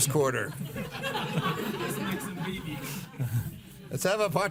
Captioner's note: laughing